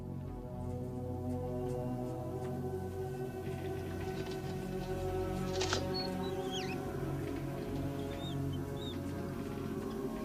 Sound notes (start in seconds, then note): 5.7 light squealing